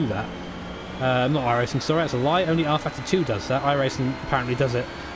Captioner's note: pfft